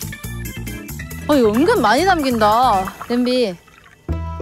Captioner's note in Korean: 물이 콸콸콸